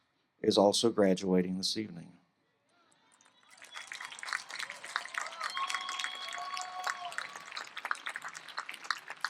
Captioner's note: applause